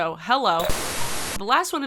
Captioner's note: buzzing